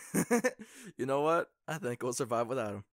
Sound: laughs

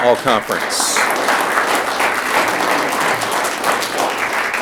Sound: audience clapping

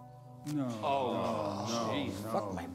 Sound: crowd whinces

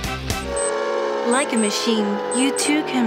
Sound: engine whirring

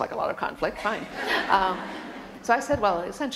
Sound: laughter

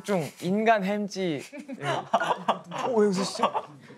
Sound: laughs

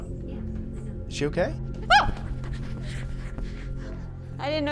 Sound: screams at nothing

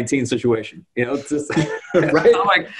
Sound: chuckle

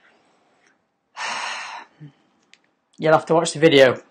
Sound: sighs

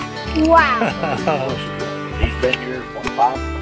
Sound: laughs

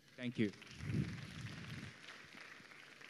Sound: applause

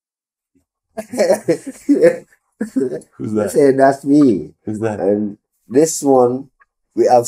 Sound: both laughing

